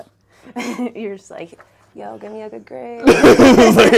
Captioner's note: laughing